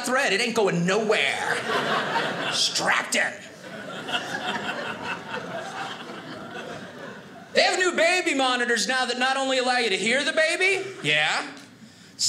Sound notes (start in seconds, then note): 3.4 audience laughing